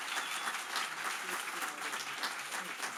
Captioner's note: applause